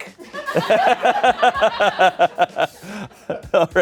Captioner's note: everyone laughs